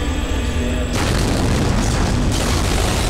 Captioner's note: Explosion